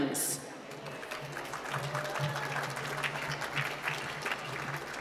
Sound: applause

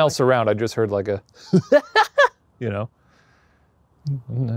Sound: laughing

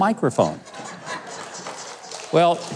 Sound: audience laughing

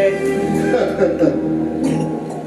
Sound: laughing

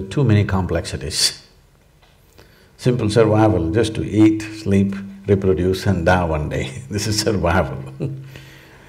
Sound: laughs

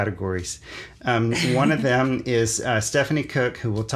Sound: laughs

